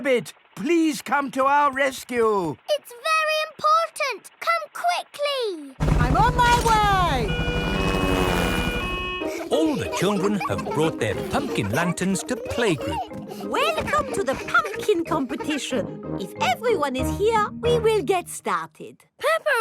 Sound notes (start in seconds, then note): 7.9 siren wailing